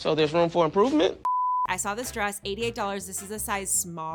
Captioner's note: electronic beeping